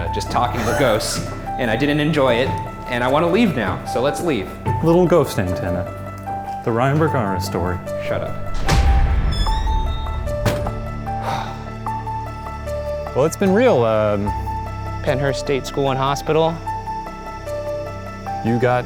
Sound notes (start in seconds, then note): 0.5 laughs; 9.5 tense music; 11.2 exhales heavily